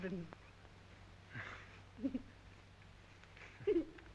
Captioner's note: giggling